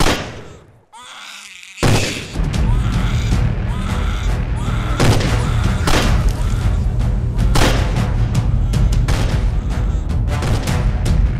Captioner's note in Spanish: Sound bebé llorando Disparos